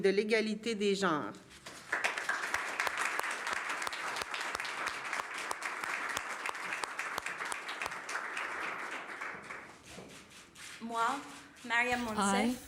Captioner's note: speaking french; applause